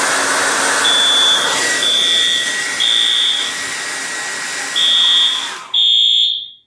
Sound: alarm sounds with hair dryer still running; alarm still sounding

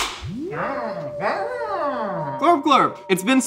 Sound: claps; eerie music; Glorp-Glorp exclaims

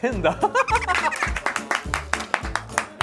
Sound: haha

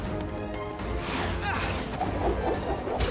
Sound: Sonic grunts

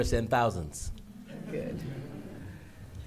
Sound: laughter

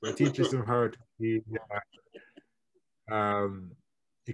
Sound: internet distortion

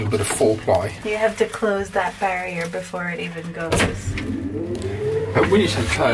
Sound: scared noises

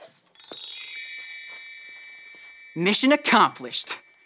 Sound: gentle cHimes

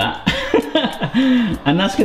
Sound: laughing

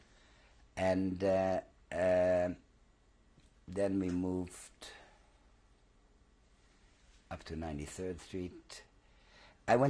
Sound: pauses for 3 seconds

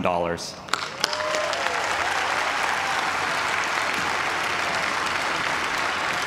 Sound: cheers and applause

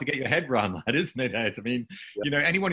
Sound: laughing

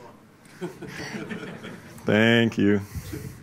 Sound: laughs

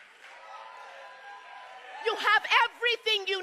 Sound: crowd cheering

